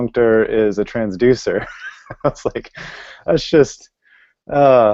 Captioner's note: laughing